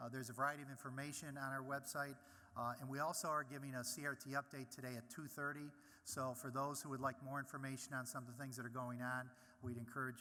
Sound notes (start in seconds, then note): none